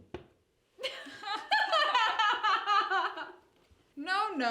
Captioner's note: NURSE and GHOST laugh